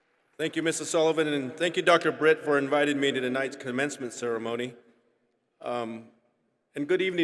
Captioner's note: applause